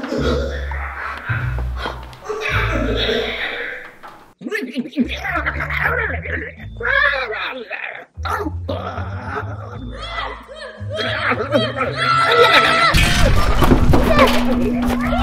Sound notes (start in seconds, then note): 0.0 weird alien noises; 0.0 creepy music; 9.8 screaming; 12.9 banging noises